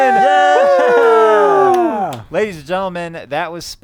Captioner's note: cheering